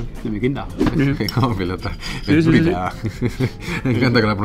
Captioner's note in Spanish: Ríe